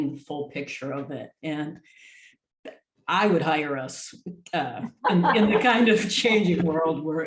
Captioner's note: group laughs